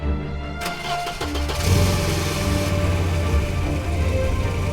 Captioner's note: engine cranking